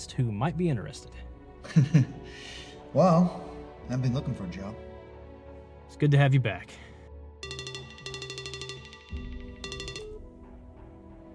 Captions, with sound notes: who might be interested. Well, I've been looking for a job. It's good to have you back. (phone ringing)